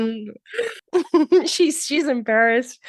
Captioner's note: laughing